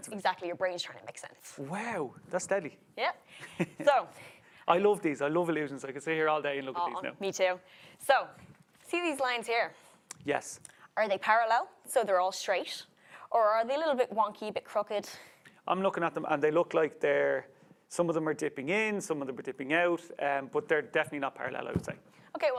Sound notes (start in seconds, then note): 3.4 chuckles